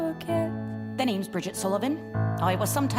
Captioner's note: BRIDGET, spoken